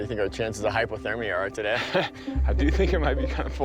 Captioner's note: laughing